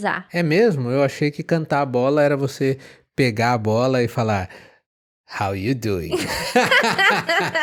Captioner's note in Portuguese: risadas